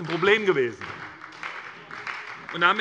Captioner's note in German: Beifall bei der SPD